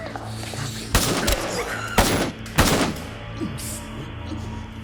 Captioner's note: dramatic music; gun firing; dramatic music